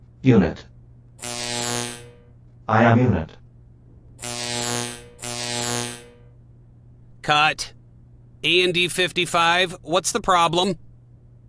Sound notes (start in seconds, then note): 1.1 eclectric shorting sound; 4.0 electric shorting sound